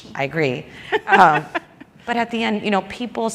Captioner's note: laughs